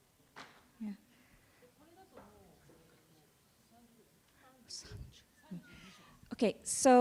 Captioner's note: speaking japanese